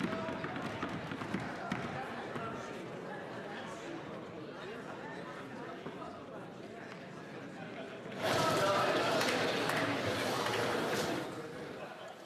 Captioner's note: some Applause